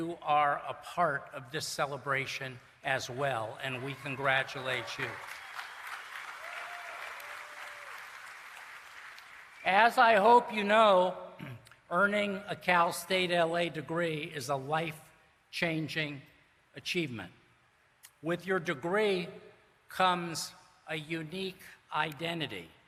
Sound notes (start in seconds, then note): 5.6 cheering and Applause